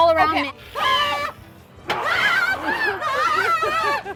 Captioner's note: screams